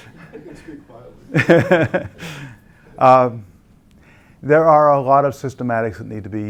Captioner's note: laugh